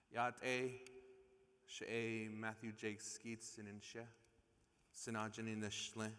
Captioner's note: speaking in foreign language